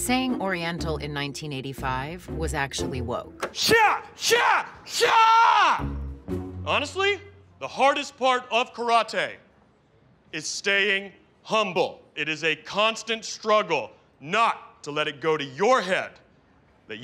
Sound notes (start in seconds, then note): 3.5 yells